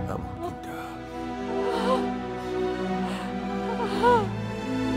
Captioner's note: All crying